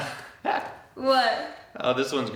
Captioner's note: laughs